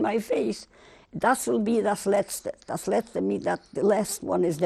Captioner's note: speaking German